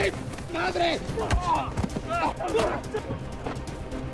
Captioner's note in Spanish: Quejidos